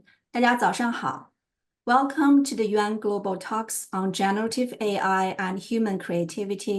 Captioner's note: Mandarin